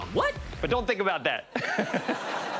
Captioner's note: chuckles